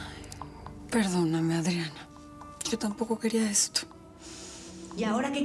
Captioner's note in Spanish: exhala